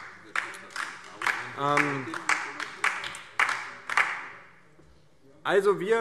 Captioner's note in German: Beifall DIE LINKE